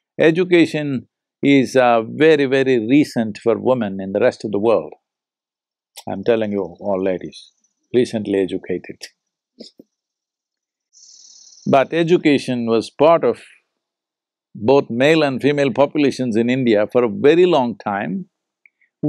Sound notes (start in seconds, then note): 10.9 laughs